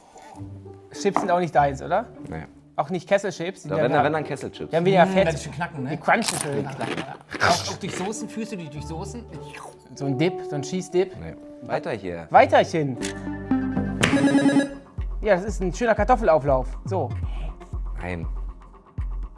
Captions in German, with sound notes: Chips sind auch nicht deins, oder? - Nee. Auch nicht Kesselchips? - Wenn dann Kesselchips. Die crunchen schön. Führst du die durch Saucen? So 'n Dip, so 'n Cheese-Dip? Weiter hier. (Buzzer) Ja, das ist ein schöner Kartoffelauflauf, so. Nein.